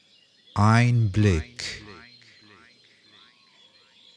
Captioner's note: german